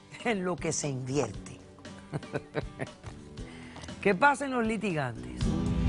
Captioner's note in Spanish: Risas